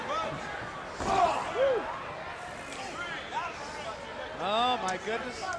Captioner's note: crowd chatter